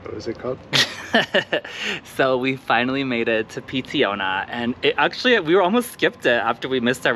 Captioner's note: giggles